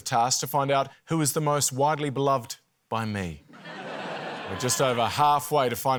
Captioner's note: laughter